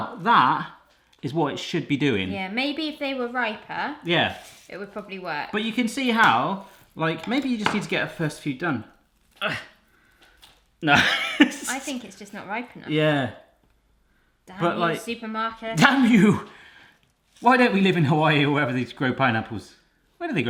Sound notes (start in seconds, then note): 9.4 grunts; 10.9 laughs